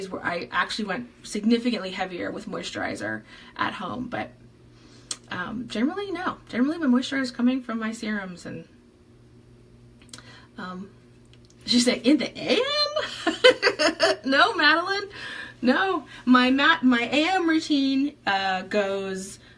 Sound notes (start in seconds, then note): 13.0 laughs